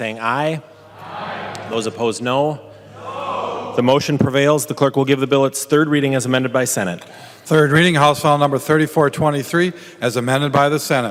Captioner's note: chorus of ayes